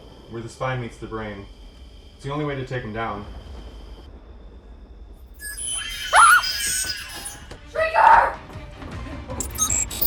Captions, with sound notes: where the spine meets the brain. It's the only way to take them down. [shrieker sounds] Shrieker!